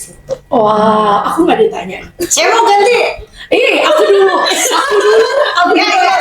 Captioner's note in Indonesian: tertawa